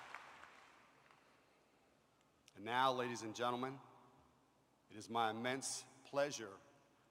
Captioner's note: applause